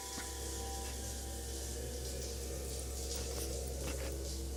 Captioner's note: sound of electrical charged area